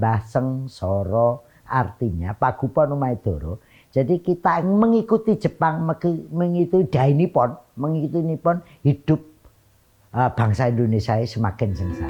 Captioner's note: speaking in javanese